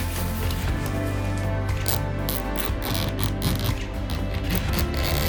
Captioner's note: sound of zipper opening